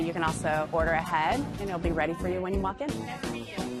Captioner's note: none